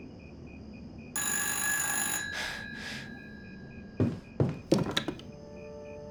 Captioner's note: telephone rings